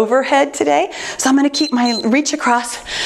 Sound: timer beeps

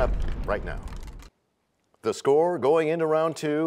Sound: crashing sound

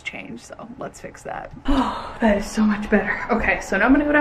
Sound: sighs loudly

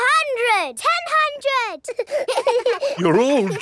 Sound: children laughing

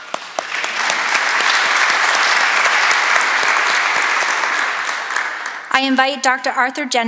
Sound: applause

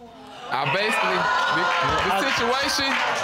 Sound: audience exclaiming

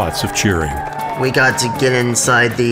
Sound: cheering

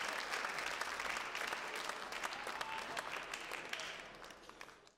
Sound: applause, cheering; applause

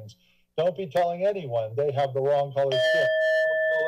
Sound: timer dings

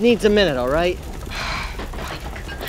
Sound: sighs

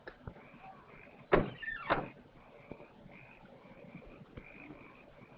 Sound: frogs croaking; car doors slamming

